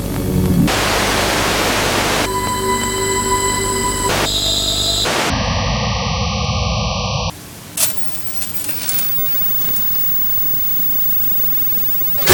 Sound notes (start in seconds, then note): 3.5 sounds of radio in space; 4.3 screeching static; 5.5 radio static